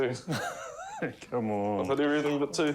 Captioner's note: chuckles